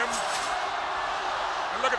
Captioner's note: spectators cheering